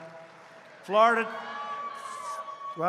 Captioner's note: applause